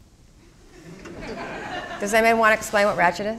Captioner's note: crowd laughing